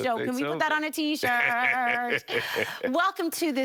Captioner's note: laughing